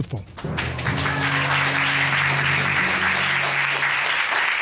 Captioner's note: applause